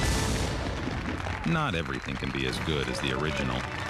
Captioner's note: applause